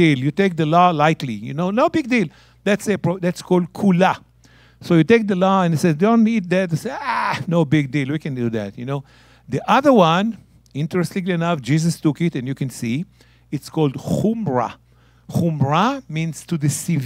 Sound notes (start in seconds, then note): 3.8 speaking in Hebrew; 13.9 speaking in Hebrew